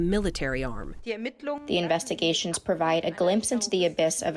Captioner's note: through translator